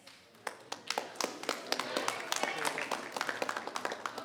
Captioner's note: members clapping